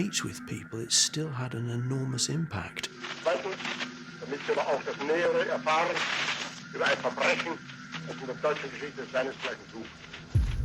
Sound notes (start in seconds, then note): 1.9 radio, Hitler in German